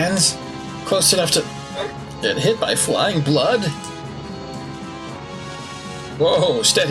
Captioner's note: gulp